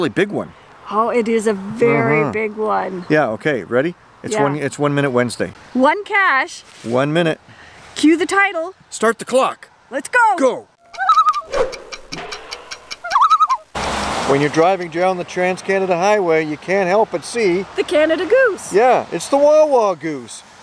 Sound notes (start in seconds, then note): 10.8 loon call